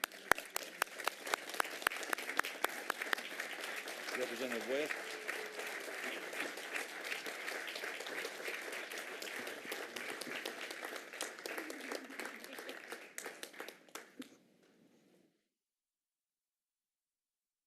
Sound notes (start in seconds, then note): 5.4 applause